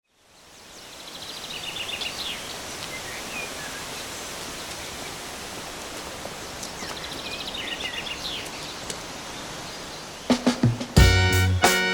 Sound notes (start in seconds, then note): 0.0 birds Chirping; 10.4 upbeat Music